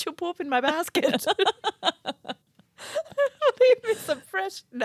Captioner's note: both laughing